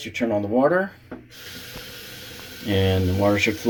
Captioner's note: water running